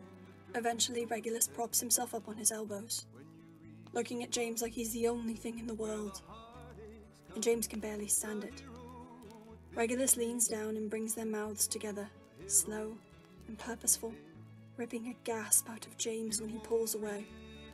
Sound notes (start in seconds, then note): none